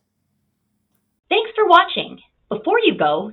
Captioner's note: voiceover